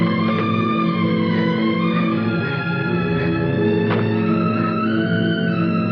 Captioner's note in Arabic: يفتح الباب; شهقت لويز وتغلق الباب